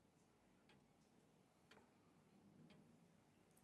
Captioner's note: clock ticks